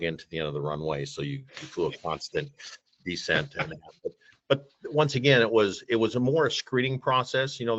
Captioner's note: chuckles